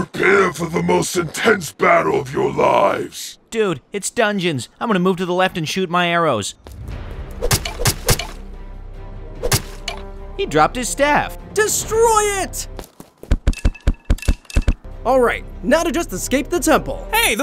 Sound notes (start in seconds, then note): 6.6 intense music; 6.8 arrows flying; 13.5 stomping